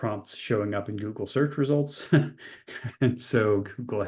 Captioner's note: chuckles